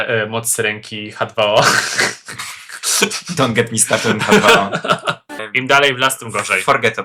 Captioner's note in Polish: śmiech